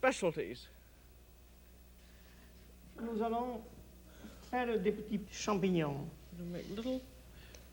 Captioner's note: speaks French